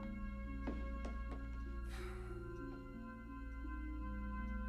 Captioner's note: deep sigh